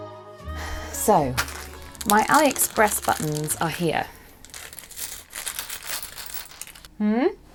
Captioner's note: rustling